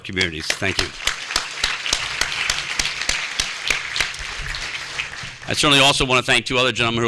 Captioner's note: applause